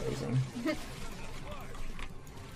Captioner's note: laughs